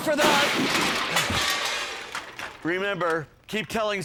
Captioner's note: objects crashing